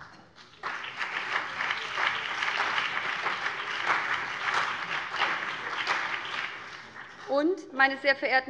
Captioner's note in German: Beifall BÜNDNIS 90/DIE GRÜNEN und CDU